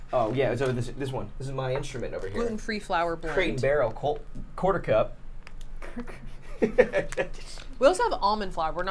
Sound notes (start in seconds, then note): 5.8 laughs